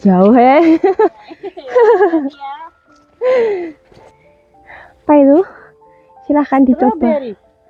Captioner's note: laughs